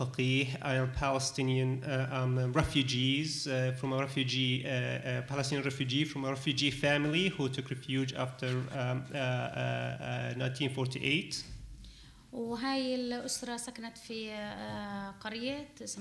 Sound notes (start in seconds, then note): 12.6 speaking arabic